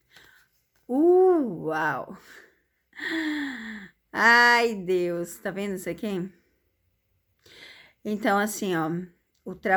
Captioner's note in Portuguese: suspirando